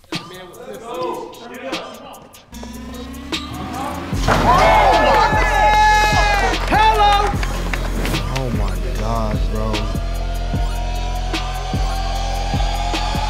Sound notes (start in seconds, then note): 2.6 upbeat music; 3.3 crowd screaming; 4.2 ball dunking